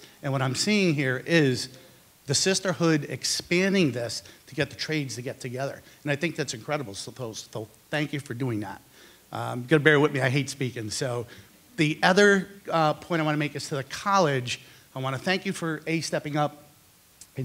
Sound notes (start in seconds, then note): none